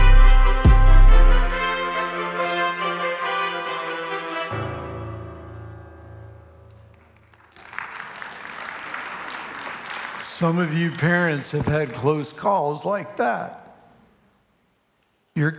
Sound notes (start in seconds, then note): 0.0 upbeat music continues; 6.8 congregation applauds